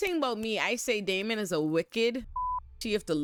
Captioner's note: beep